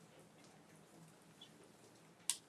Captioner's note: speaking faintly